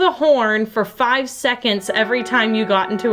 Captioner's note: horn blares